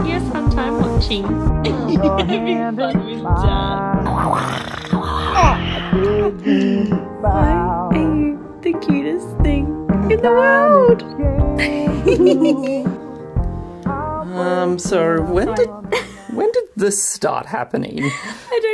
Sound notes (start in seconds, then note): 4.0 growling; 4.5 baby giggles; 11.5 laughs